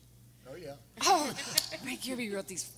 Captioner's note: everyone laughing